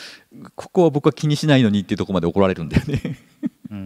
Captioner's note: chuckles